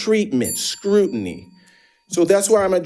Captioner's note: bell dinging